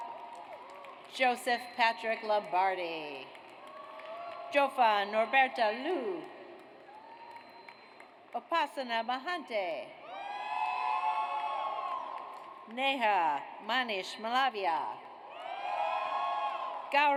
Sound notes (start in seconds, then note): 0.0 audience cheers; 3.2 audience applauds; 6.5 audience applauds; 10.0 audience cheers; 15.3 audience cheers